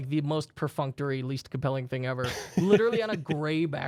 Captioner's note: softly laughing